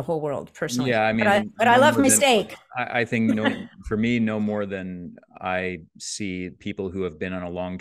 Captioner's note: chuckles